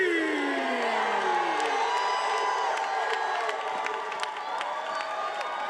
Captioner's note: attendees cheering